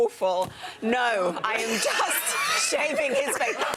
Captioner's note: laughter